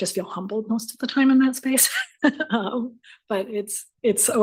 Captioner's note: laughs